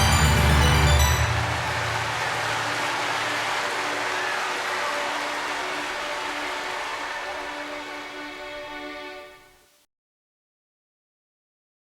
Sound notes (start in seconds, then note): 1.0 cheering